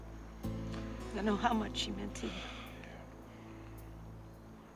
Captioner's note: sighs